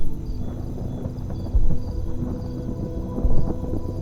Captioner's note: thunder rumbles